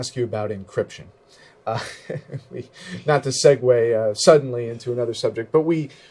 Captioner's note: laughs